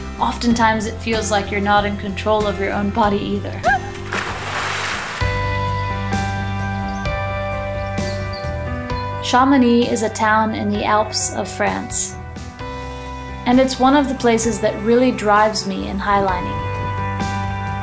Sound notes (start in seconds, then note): 3.6 splashing; 5.4 light, energetic music